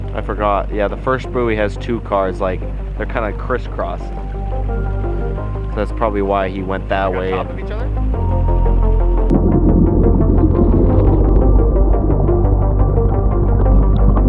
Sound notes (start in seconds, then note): 0.0 tense synth music; 8.5 tense synth music continues; 8.5 water bubbles